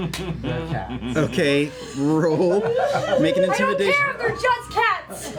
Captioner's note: shouting